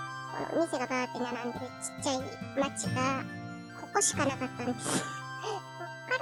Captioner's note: laugh